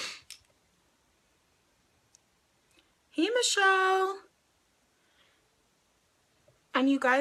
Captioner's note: sniffs